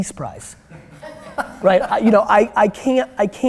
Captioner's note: chuckling